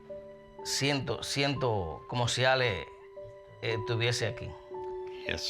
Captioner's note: speaking spanish